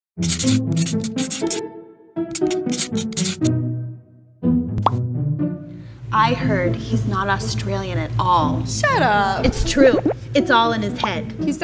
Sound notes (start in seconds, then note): 0.3 upbeat bouncy music; 4.8 bubble popping